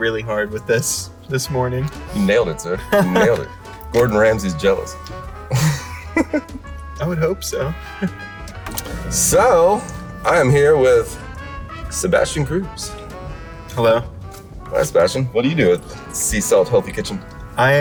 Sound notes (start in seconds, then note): 2.8 laughs; 5.4 laughs